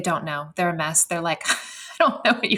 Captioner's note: laughs